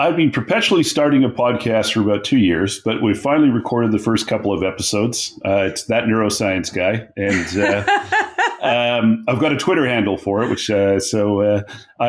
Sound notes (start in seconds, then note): 7.2 laughing